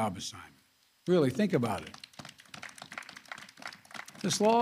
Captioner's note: applause